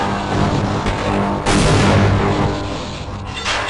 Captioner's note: boom!